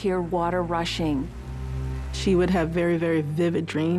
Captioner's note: water rushing